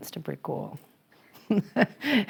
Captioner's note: laughter